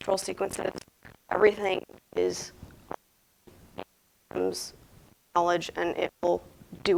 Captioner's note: audio cuts out for a short time